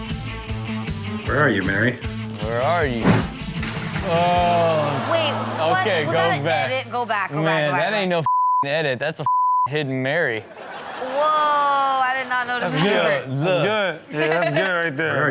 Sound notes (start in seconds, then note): 8.2 beep; 10.3 crowd laughing